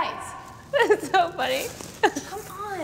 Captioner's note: giggles